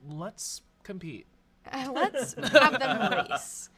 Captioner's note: off-camera laughing